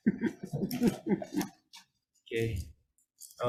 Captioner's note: members chuckling